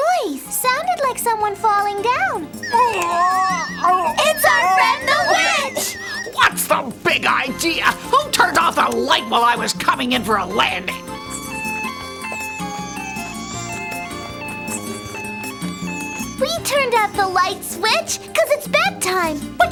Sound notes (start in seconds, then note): 2.7 witch groaning; 11.9 ambulance siren wailing